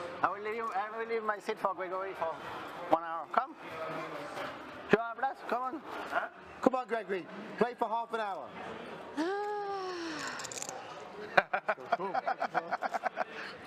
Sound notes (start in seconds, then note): 9.2 sigh; 11.4 laughs